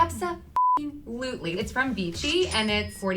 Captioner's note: beep